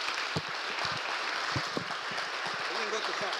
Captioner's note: applause